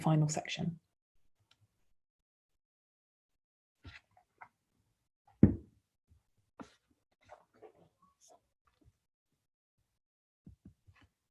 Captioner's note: silence